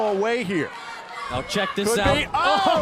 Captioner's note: crowd chatter